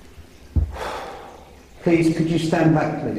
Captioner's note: exhales